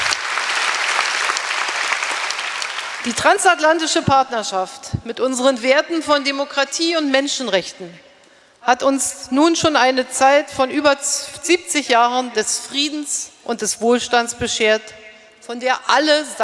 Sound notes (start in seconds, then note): 0.0 applause; 1.3 speaking in German